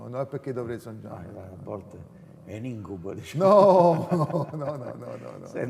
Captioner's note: laughing